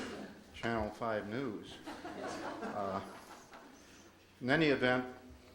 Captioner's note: audience laughs